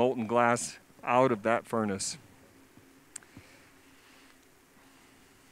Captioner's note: silence